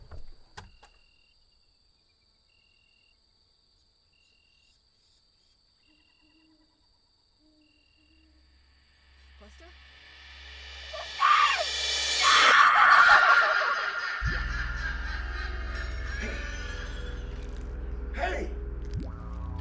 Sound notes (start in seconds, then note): 10.9 person screaming